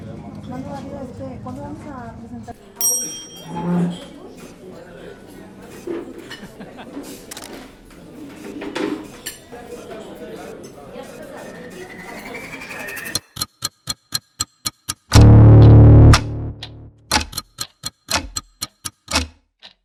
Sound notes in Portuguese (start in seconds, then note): 0.2 ambiente de restaurante com vozes ao fundo; 3.4 Cadeiras arrastadas em um piso de madeira; 6.0 ambiente de restaurante com vozes ao fundo; 8.8 ambiente de restaurante com vozes ao fundo; 13.1 tique-taque de um relógio